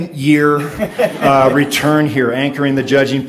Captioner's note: audience laughs